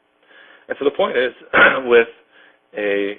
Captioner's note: coughs